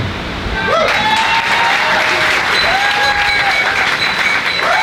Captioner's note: cheers and Applause